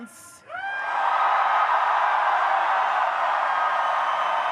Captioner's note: audience cheers